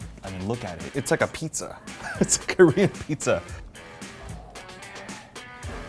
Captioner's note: laughing